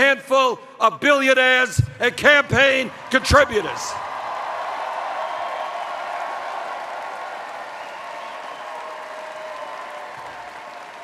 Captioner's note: cheers